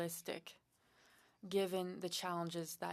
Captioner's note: speaking French